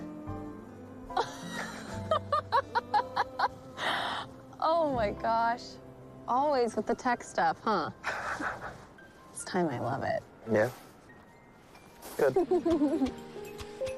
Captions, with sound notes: [laughs] Oh, my gososh. Always with the tech stuff, huh? - This timime I love it. - Yeah? Good.